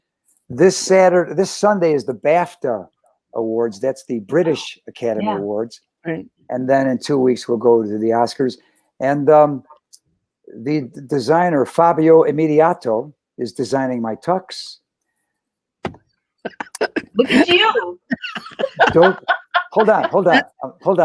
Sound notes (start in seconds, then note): 17.1 laughter